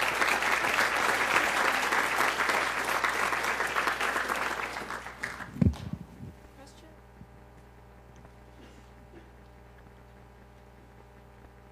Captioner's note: applause